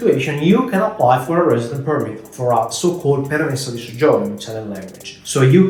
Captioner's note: speaking Italian